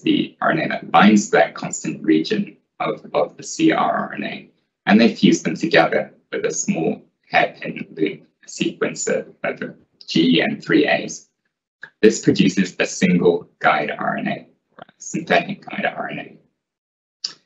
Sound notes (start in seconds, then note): 11.4 gaaa